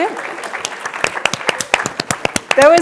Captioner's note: applause